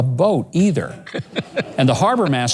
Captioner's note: laughs